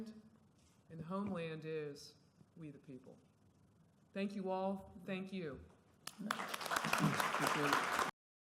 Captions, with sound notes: And, the homeland is, we the people. Thank you all. Thank you. [ Applause ]